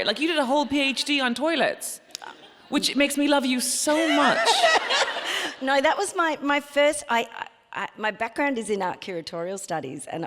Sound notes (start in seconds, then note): 3.9 laughs